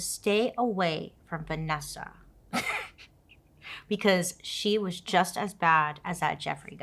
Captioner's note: laughs